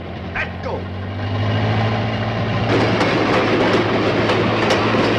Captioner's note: engine revving